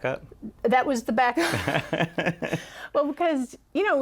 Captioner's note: laughter